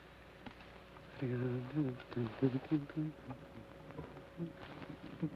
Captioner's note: Joshua hums melodically